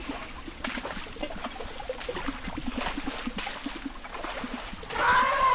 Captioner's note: water splashing